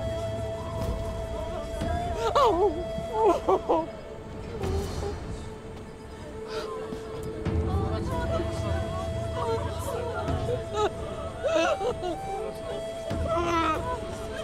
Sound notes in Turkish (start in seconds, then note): 2.1 Ağlama sesi; 7.1 Müzik - Duygusal